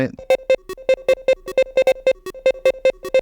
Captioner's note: beeping